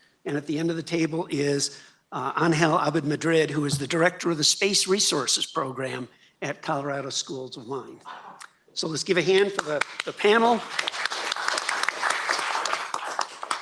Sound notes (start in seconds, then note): 11.1 applause